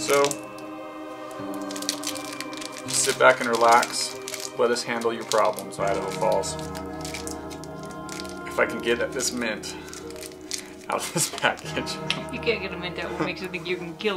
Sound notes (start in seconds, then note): 0.5 wrapper crinkling; 7.0 wrapper crinkling